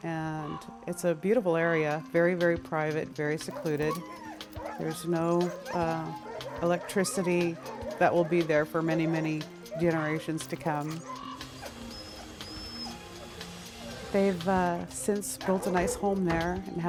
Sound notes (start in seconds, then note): 10.9 drill whirring; 10.9 dogs barking